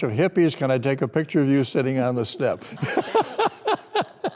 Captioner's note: laughter